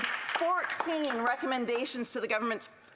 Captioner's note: some Applause